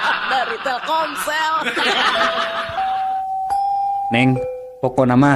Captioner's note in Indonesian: tertawa